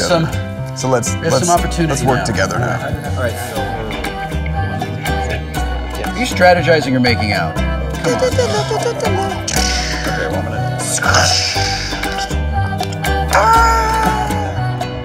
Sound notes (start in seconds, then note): 7.9 humming; 8.9 lightsaber noises; 12.8 shout